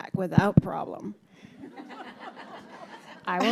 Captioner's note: audience laughing